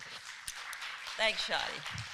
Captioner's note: applause